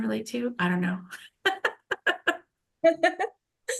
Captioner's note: laughs